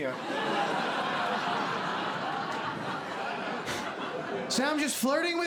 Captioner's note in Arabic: ضحك